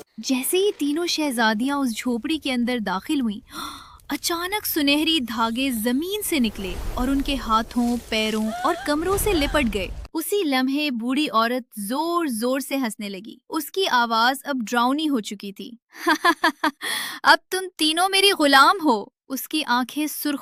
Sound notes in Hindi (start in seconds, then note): 3.5 अचानक ज़ोर से सांस लेने की आवाज़